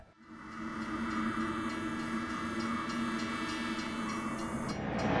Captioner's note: train hissing